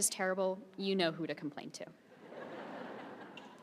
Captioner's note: laughter